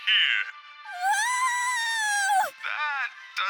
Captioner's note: Kid Deku screams